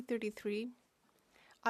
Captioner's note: speaking French